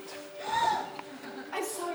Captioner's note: Hifumi gasps as CELESTE falls